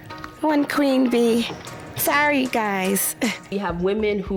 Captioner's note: chuckles